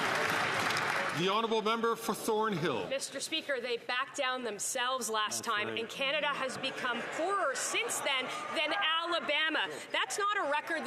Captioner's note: some Applause